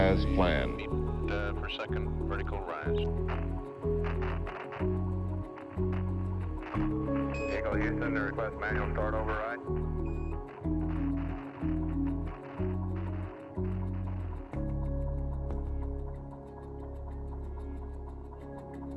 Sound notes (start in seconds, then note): 3.4 static crackles